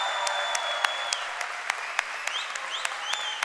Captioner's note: cheering and applause